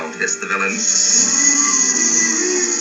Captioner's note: hissing